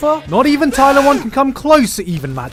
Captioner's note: macho noises; scream